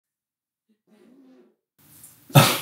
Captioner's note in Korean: 음소거